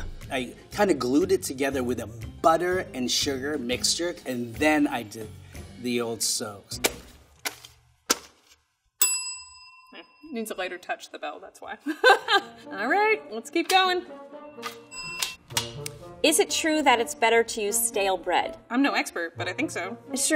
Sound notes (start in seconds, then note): 9.0 bell ringing